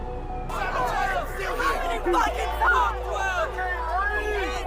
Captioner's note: crowd protesting